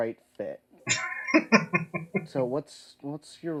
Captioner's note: laughing